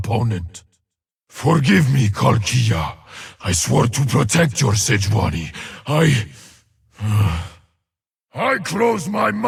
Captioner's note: sighs